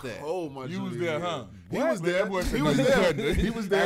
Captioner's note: laughter